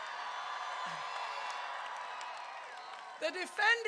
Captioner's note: crowd cheering